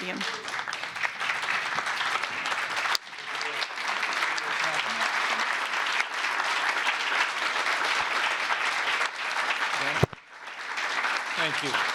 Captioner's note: applause